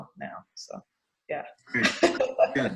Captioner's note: laughs